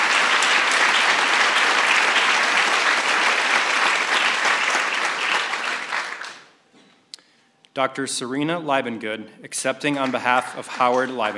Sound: applause

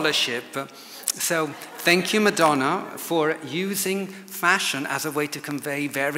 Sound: audience laughs

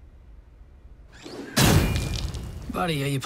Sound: gun firing

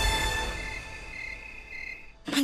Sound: owl screeching

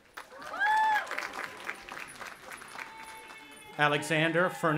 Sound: audience applauding and cheering

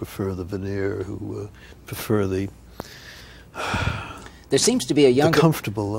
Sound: sighs

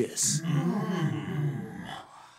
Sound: men exclaiming

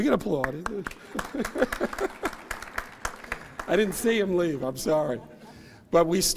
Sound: laughs

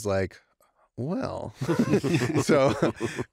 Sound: laughter

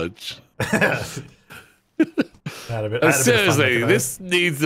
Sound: laughing

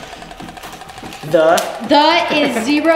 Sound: laughs

